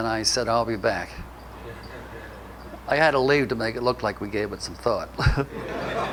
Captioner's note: audience laughter